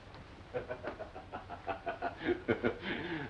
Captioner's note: laughing